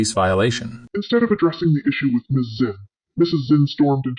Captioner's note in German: verzerrt